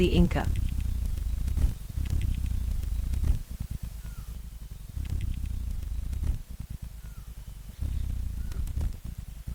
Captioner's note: birds chirping; bird's wing flapping